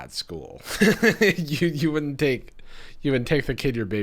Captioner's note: laughs